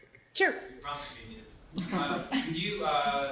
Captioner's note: laughter